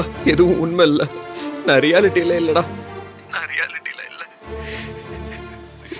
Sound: sobbing

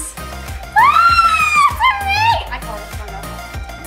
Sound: squeals

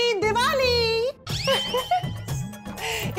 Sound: laughing

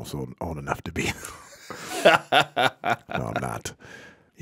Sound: laughing

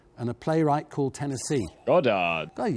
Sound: buzzer buzzes

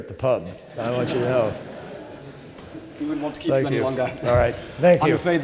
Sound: laughter

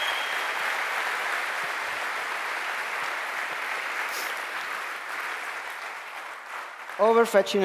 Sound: applause

